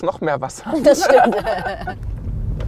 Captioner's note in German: Sie lachen